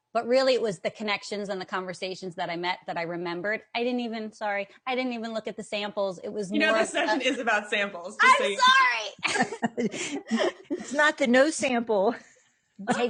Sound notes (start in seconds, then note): 9.2 laughing; 9.2 laughs